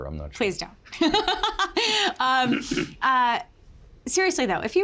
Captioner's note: Margaret laughs